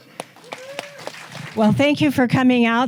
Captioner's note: audience applauding